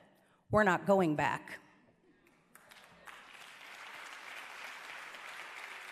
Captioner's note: applause